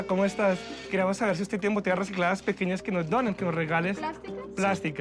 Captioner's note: speaking Spanish